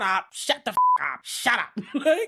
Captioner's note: beep